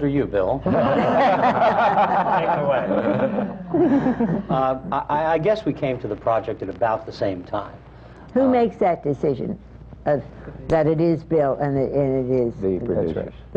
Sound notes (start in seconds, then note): 4.3 laughter